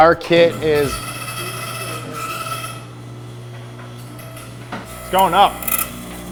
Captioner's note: metallic whirring sound